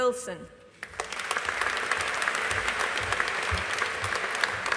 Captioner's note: audience applauding